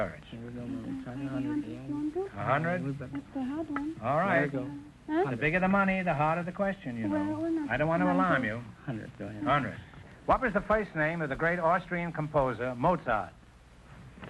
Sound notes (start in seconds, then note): 0.3 whispering; 2.7 contestants whispering; 8.3 contestants whispering